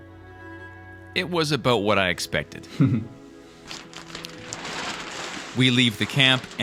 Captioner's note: laughs